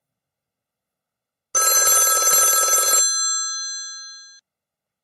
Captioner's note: phone ringing